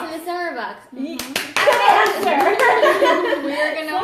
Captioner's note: applause